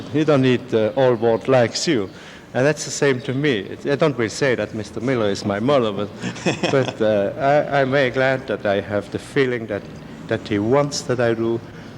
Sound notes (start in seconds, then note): 6.2 laughs